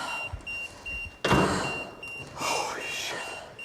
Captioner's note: Isabel gasping